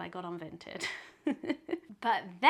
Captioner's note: laughs